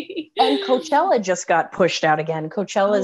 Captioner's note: laughing